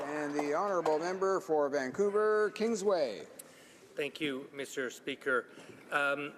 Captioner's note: applause